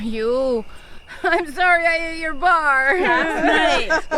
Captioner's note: laughs